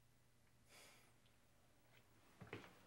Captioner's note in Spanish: suspira